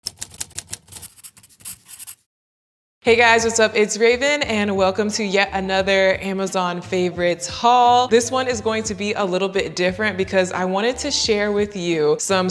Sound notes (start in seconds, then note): 0.0 typewriter keys click; 3.6 upbeat music